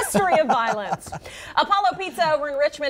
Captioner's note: laughter